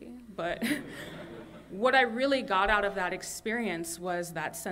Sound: laughter

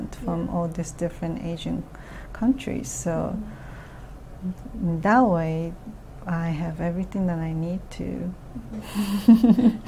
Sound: laughs

